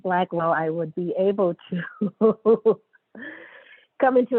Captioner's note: laughs